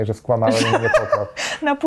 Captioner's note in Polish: śmiech